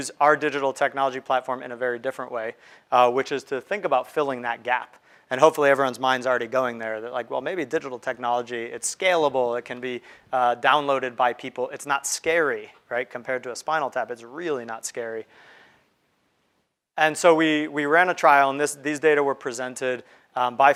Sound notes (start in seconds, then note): none